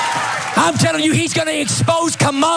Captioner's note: applause